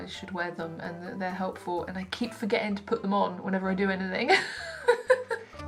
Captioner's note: laughs